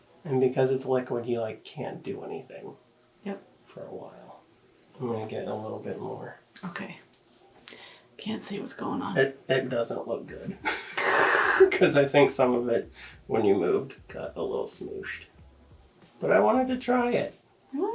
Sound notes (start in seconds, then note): 10.5 laughs